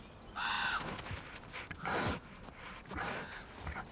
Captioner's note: birds chirping